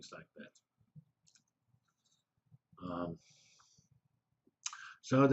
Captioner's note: pause